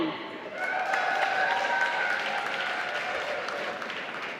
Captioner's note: applause